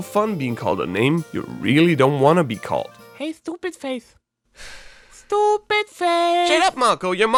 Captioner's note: sigh